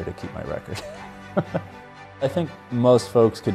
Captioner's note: chuckles